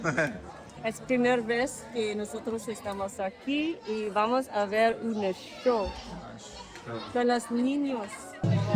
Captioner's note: speaks in spanish